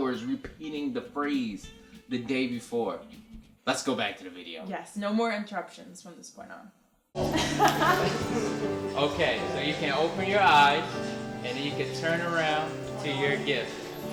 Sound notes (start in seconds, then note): 7.2 laughs